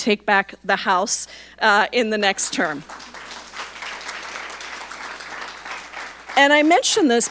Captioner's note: audience applauding